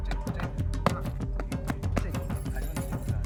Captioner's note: stamping and bell chimes